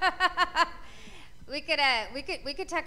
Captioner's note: laughter